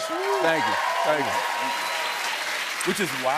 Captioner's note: cheers and applause